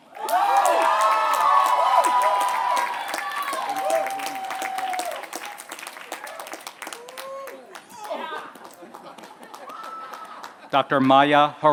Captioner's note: applause